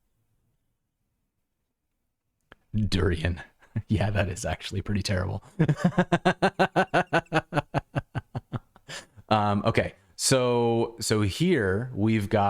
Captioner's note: laughter